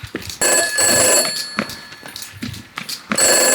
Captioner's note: phone rings